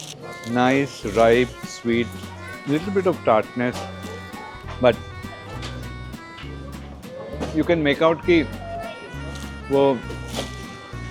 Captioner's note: crying sound